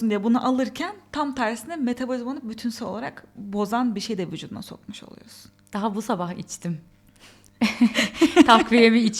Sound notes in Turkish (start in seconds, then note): 7.6 kahkaha